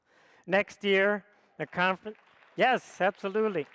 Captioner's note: audience applauds